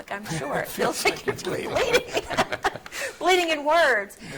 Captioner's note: laughing